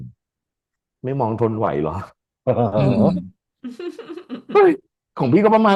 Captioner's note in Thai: เสียงหัวเราะ